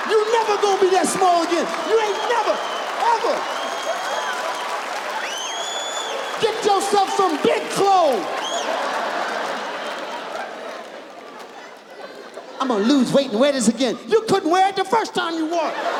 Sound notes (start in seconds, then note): 3.7 audience applauds; 8.5 audience laughs